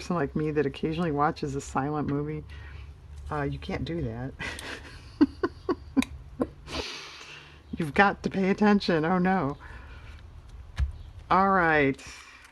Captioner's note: laughs